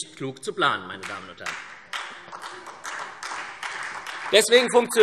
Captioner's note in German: Beifall SPD